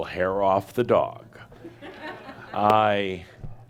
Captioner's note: some chuckles